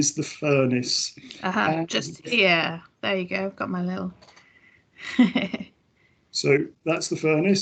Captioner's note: laughs